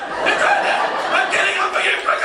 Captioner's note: resumes normal voice; yells